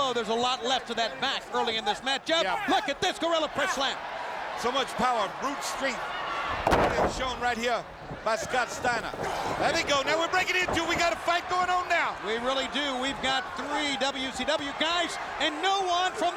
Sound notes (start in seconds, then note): 9.1 mat rattling